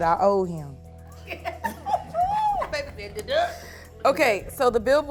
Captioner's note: laughter